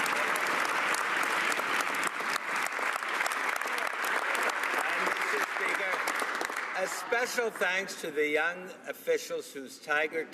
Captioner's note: some Applause